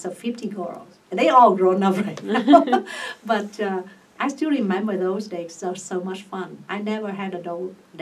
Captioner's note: laughs